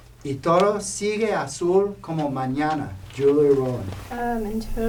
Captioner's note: speaking spanish